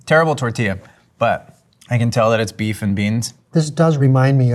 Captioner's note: none